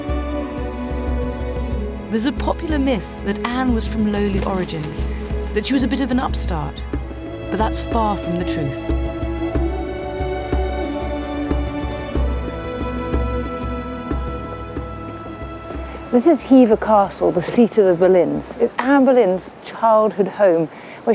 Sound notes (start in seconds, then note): 12.1 footsteps shuffle